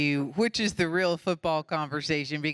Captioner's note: none